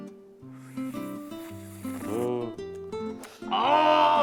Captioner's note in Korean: 후루루룩